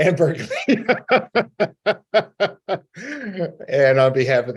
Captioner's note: both laughing